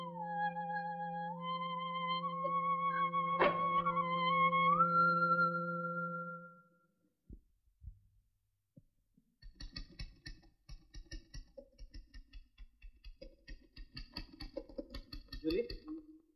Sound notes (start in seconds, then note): 10.7 typewriter keytop clacking